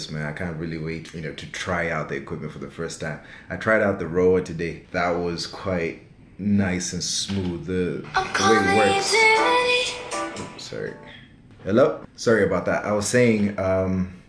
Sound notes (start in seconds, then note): 8.1 phone Rings